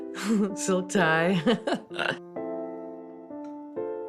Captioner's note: chuckles